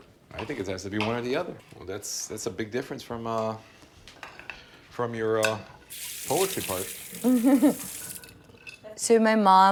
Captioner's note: laughs